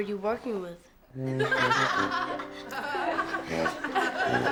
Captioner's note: all laughing